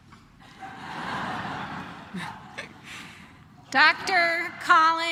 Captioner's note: laughs